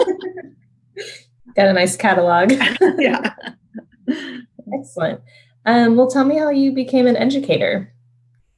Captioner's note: laughter; laughter